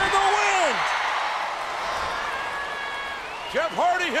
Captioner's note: crowd cheers in a roar